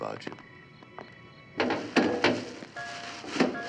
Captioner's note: banging